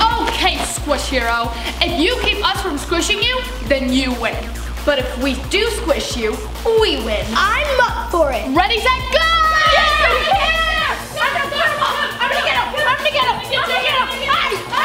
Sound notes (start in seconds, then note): 0.0 laughs; 10.9 yelling Overlapping